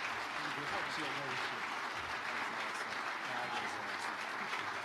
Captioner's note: speaking off mic